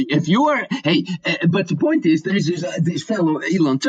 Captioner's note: stammers